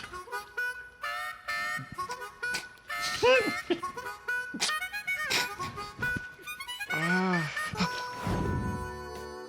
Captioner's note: chuckling